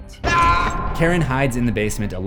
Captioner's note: Ray screams